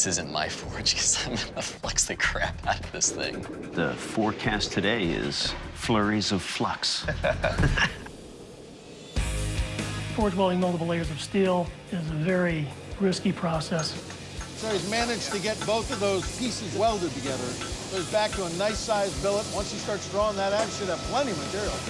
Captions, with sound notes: because I'm going to flux the crap out of this thing. - The forecast today is flurries of flux. - [laughs] - Forging multiple layers of steel is a very risky process. - So he's managed to get both of those pieces welded together. He's back to a nice-sized billet. One he starts rolling that out, he should have plenty material.